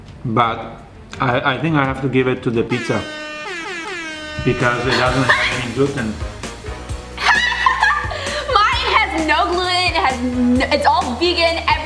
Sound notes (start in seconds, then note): 2.7 air horn blasting; 3.5 laughing; 6.4 upbeat music; 7.2 laughing